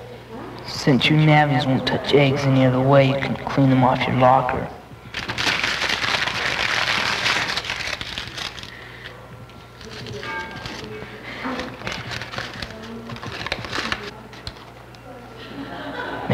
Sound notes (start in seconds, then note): 1.2 echo effect; 5.1 paper crunching